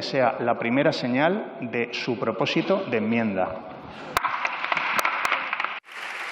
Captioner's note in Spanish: Aplausos